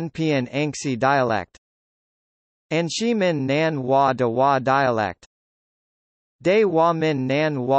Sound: 安溪闽南话

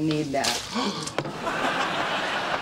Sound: gasps

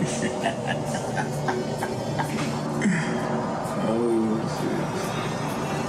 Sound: Scar laughs; dramatic music

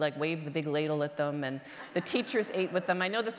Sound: audience laughter

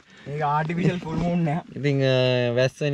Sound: laughing

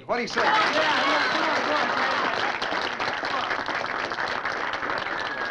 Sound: all applauding

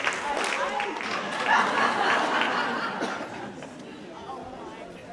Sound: audience laughing

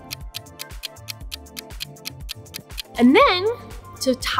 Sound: clock ticking

